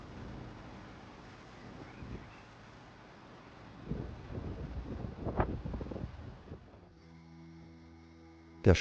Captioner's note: river noise